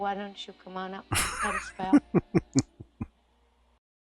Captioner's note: chuckling